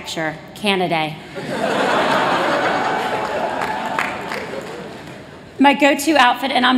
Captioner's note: laughter